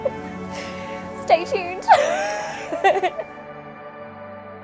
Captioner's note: laughs